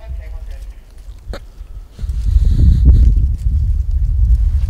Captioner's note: radio chattering